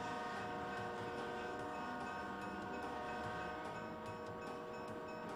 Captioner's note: train horn